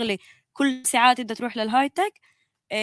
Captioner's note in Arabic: لغة أجنبية